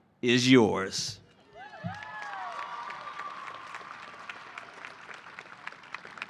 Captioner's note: cheering and applause